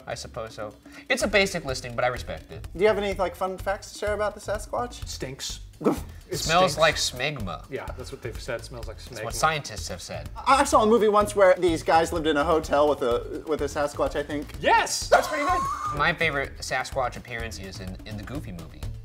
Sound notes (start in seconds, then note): 15.1 laughing